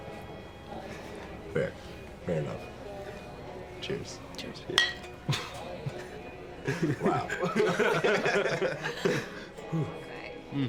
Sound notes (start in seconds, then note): 6.6 laughing